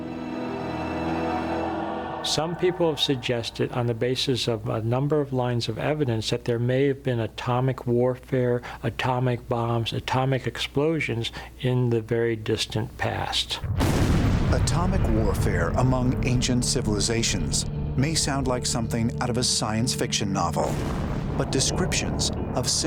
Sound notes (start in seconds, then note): 12.0 explosion